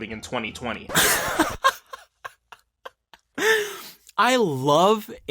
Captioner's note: laughs